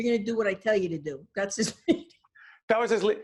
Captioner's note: laughing